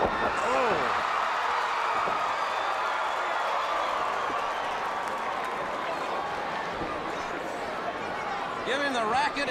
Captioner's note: crowd cheering